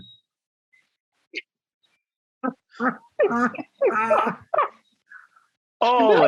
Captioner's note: laughs